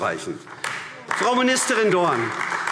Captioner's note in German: Beifall AfD